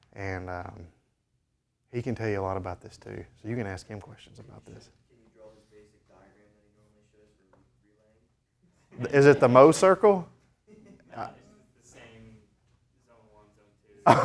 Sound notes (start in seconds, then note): 9.0 students laughing